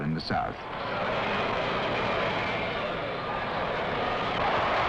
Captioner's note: crowds clamoring